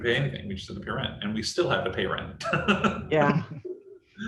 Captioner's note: laughs